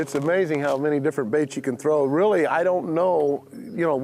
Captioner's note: none